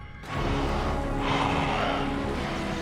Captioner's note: in high-pitched voice